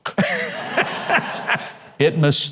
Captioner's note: audience laughing